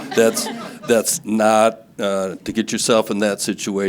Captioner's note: audience laughing